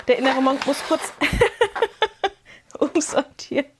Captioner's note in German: Gelächter